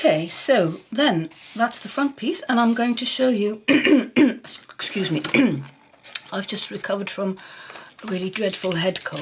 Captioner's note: coughs